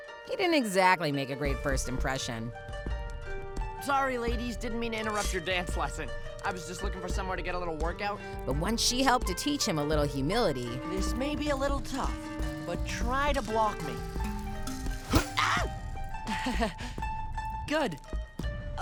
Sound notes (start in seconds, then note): 15.3 screams; 16.3 nervous chuckle